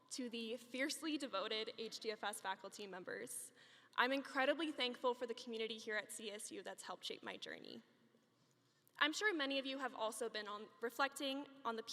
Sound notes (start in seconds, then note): none